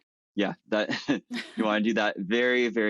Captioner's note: chuckles